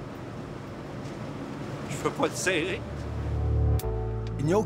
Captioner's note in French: voix tremblante